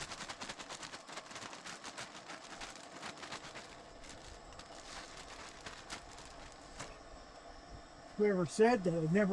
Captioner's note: rattling